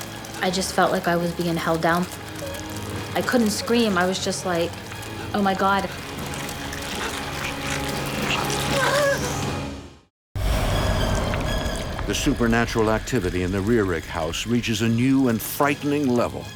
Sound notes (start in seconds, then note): 10.4 air whooshes